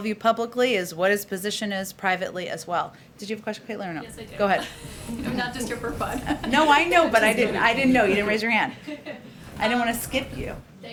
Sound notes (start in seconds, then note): 4.1 laughs